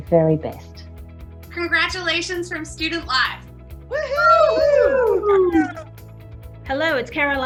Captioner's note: group cheering